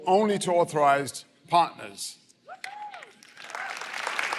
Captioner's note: applause